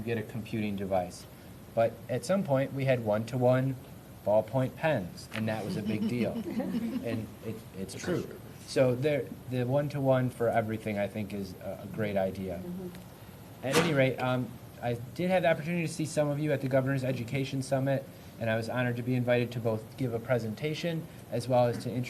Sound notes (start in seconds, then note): 5.6 laughter